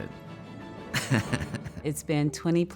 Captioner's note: laughs